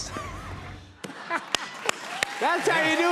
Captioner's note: laughter